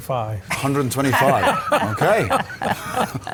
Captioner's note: laughing